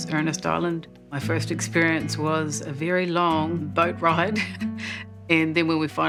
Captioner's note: laughs